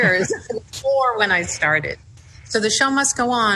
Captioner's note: laughs